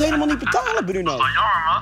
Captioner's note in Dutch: bruno lacht